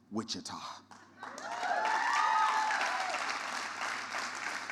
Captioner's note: audience applause